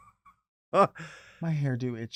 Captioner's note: chuckles